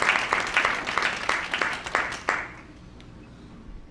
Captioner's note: applause